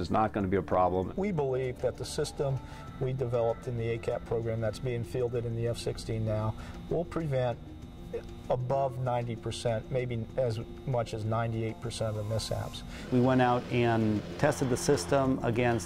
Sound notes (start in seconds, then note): none